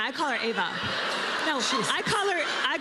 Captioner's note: laughter